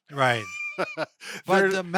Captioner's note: laughing